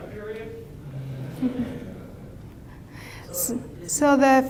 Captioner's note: students laugh